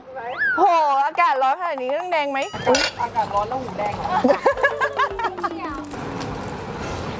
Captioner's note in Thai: เสียงหัวเราะ